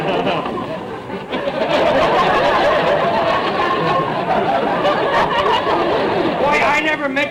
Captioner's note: audience laughter